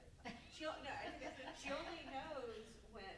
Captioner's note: group members laughing